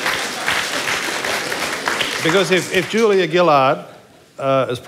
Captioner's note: applause